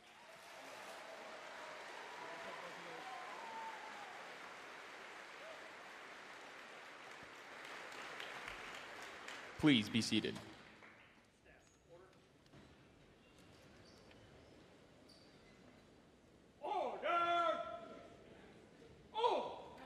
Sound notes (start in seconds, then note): 1.9 audience cheering and applauding